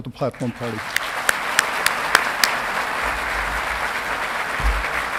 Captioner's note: audience clapping